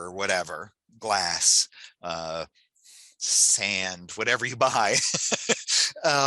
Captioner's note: laughs